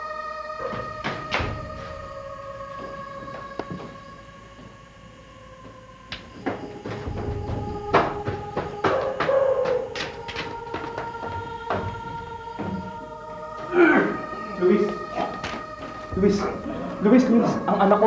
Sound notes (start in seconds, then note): 0.5 heavy footsteps; 6.2 hollow footsteps echoing; 8.6 dogs barking; 13.6 Luis coughing